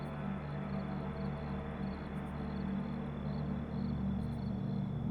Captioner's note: insects chirping